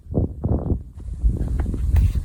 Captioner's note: air whooshing